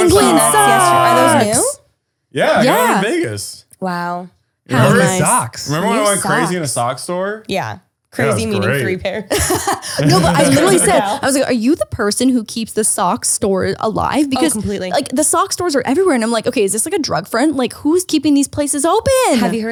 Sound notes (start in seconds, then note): 2.3 all chattering; 9.2 laughs